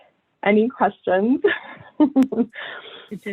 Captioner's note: laughs